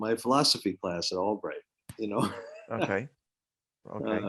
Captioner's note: chuckles